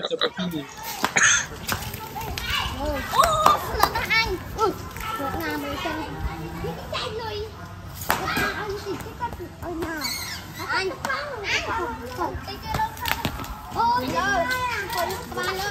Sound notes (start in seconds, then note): 1.1 children speaking in Khmer